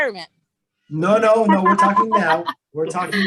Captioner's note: laughs